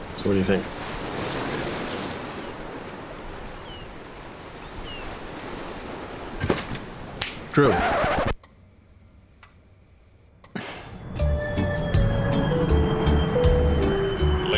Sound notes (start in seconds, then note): 2.9 seagulls and ocean waves rolling in; 7.2 snaps fingers; 7.6 record scratching sound